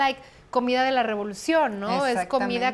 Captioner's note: both speaking Spanish